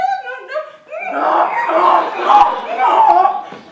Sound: bray

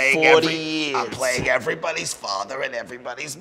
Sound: raspingly

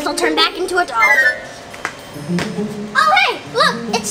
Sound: magical sound

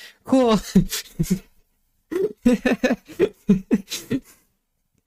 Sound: giggle loop

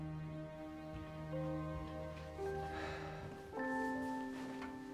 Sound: sighs

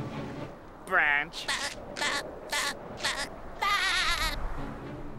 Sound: laughing; laughing

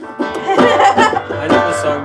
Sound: laughes

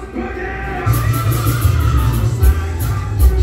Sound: screams

